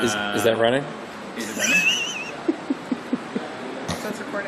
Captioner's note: laugh